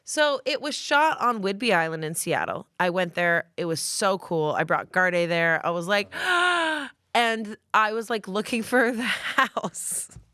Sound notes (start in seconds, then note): 6.7 gasps; 9.7 laughs